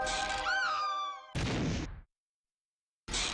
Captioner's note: woman screams